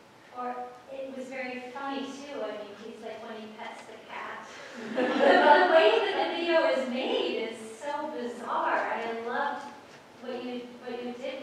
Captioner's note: laughter